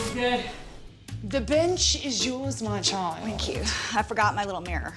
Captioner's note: haughty voice